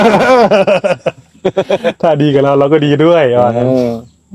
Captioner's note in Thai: เสียงหัวเราะ